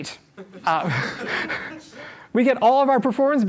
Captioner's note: laughter